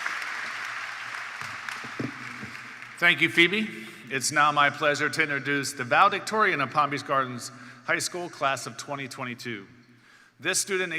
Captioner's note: cheers and Applause